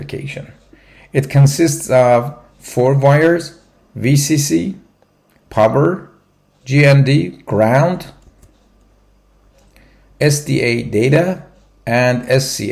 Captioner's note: clock